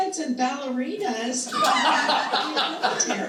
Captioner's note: all chuckling